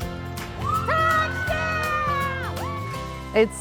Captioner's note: cheers and applause